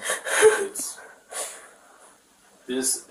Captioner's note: crying